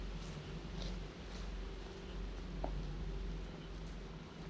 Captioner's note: footsteps shuffle